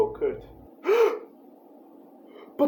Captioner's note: gasp